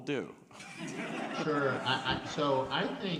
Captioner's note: panelists and audience laughing